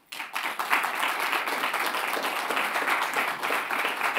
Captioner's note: audience clapping